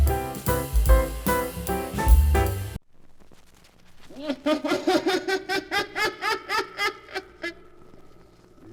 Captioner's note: laughing